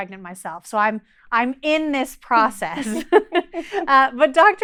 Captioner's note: both chuckles